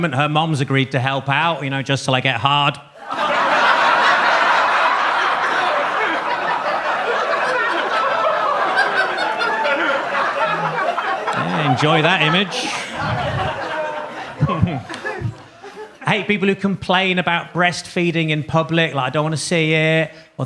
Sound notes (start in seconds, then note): 3.2 audience laughs